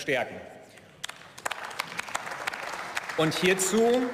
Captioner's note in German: Beifall